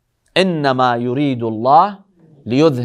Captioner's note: Arabic